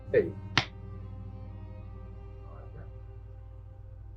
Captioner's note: somber music; marker clacks